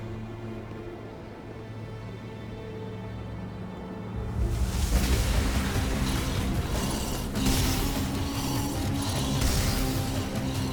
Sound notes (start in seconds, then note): 4.3 gunshots